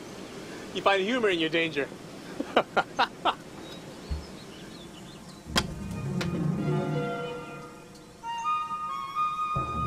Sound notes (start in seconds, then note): 2.3 laughs; 7.3 lighthearted orchestral music